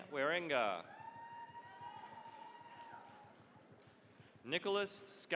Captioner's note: cheering, applause